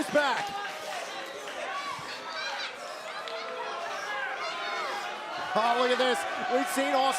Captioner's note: crowd chatter